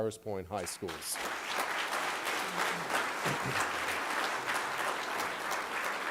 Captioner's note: applause